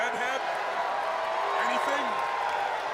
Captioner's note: crowd jeering